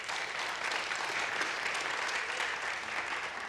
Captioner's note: applause